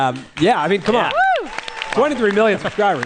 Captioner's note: applause